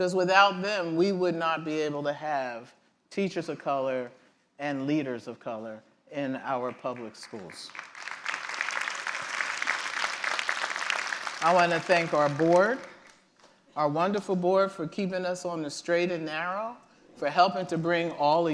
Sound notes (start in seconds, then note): 6.6 applause